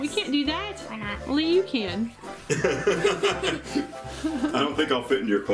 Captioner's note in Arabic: ضحك